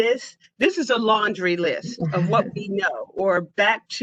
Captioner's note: laughter